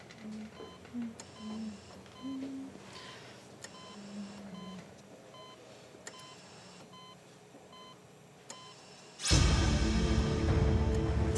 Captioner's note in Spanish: sonido del monitor